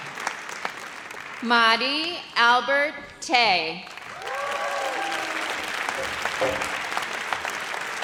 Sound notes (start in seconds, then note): 4.1 audience cheers